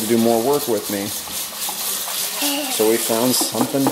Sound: running water

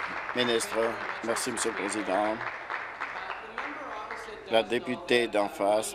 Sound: applause

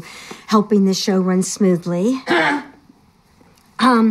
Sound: clears throat loudly

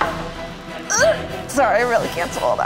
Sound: yelps

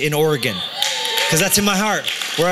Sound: cheering

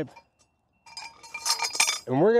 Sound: metal clangs

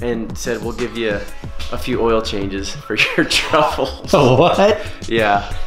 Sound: laughing

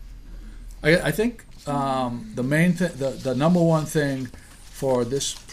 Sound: voiceover

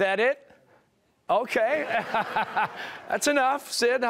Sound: laughter

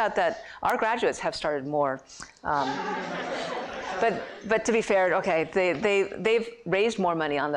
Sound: laughter

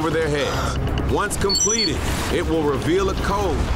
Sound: digital beeping

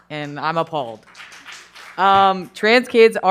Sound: attendees applauding

